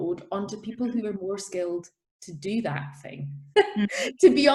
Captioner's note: laughs